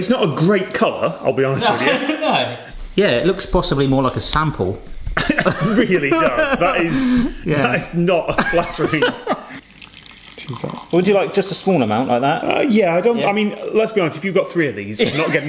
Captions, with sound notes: It's not a great colour, I'll be honest with you. Yeah, it looks possibly more like a sample. (both laughing) - It really does. That is, that is not flattering. (pouring tea) - Would you like just a small amount, like that? - Yeah, I mean, let's be honest, if you've got three of these,